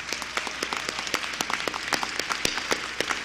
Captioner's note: applause